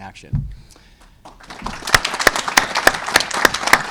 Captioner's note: applause